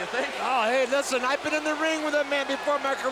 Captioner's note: commentators exclaim